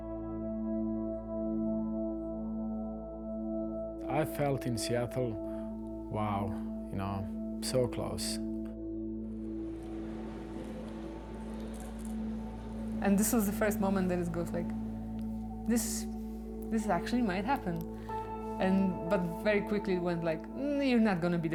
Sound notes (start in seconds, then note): 0.0 soft music; 10.0 people chattering; 10.5 soft music